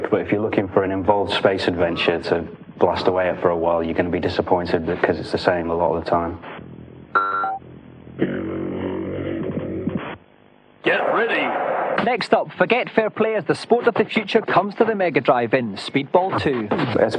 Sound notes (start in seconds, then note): 10.8 game audio